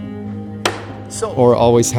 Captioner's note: gavel banging